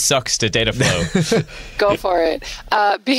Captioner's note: chuckling